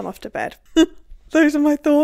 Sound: laughing

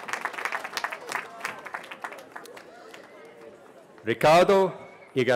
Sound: cheering

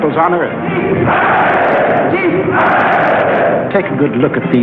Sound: crowd chanting in German

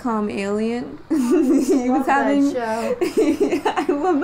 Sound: laughing

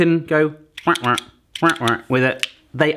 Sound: quacking like a duck

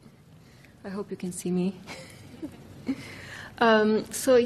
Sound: laughs

